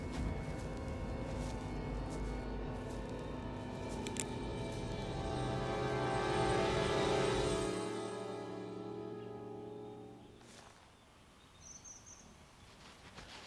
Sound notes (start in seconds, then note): 0.0 suspense music; 4.0 ratchet's gun clicks; 9.0 birds chirping